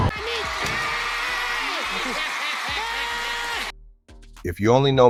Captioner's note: audience cheers